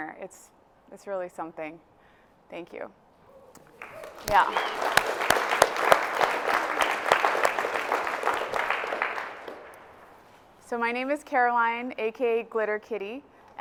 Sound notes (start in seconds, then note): 3.6 audience cheers and applauds